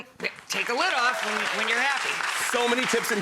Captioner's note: audience applauds